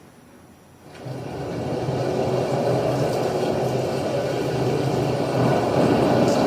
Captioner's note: rain